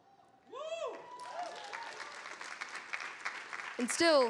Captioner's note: audience applauding